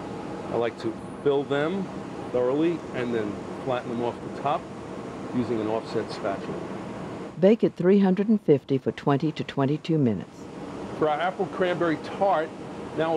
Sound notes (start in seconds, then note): 7.1 voiceover